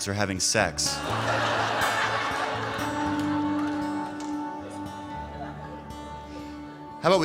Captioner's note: laughter